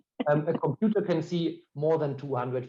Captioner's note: laughing